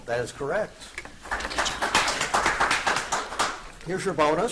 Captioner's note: audience applauds